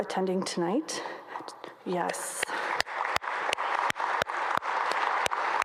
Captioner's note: audience applauds